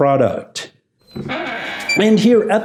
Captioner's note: door creaks